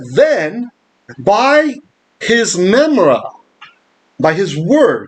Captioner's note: Aramaic